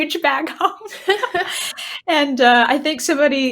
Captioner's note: both laughing